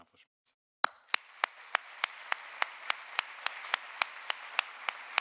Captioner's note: audience applauding